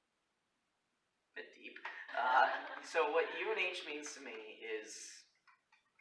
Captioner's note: laughter